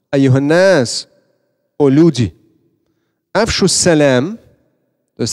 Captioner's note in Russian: говорит на арабском